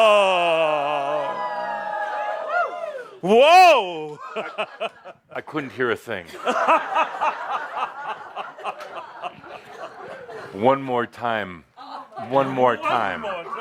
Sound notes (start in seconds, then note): 6.2 laughter